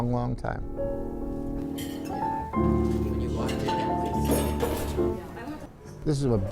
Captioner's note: relaxed piano music; light conversation